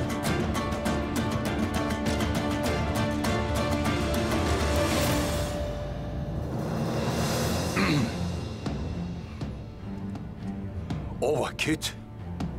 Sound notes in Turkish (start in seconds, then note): 7.7 Boğaz temizleme sesi